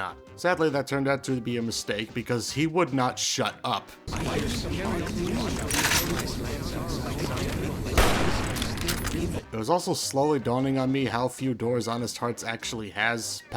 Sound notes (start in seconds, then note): 4.0 various cacophanies of Follows-Chalks, a single gunshot, more Follows-Chalks